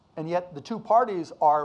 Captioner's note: none